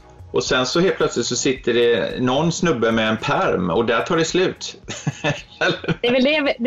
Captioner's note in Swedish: skratt